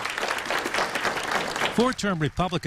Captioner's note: applause